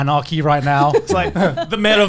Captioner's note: laughing